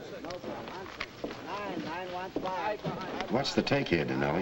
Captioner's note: players chattering